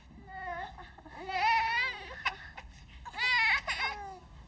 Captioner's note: Joey crying